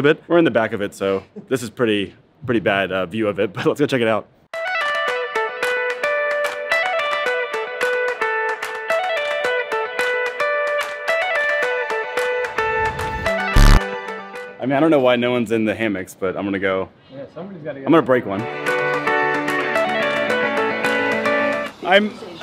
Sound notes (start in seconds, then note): 4.8 bright upbeat music; 13.5 farting; 18.6 upbeat music